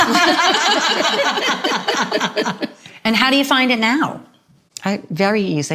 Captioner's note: laughter